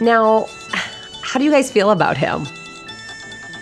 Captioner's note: sigh